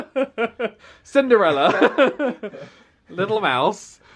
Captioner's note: they laugh; laughs